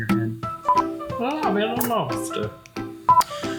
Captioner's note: beep; beep